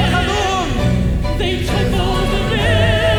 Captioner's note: performer speaking Arabic